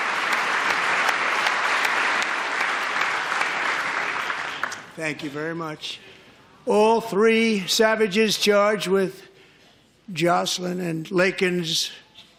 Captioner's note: applause